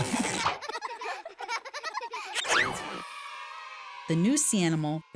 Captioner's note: children laughing